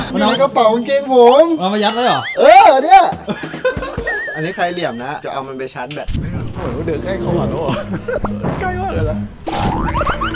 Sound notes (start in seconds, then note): 1.5 Pat; 3.1 laughs; 3.4 Pat; 7.6 chuckles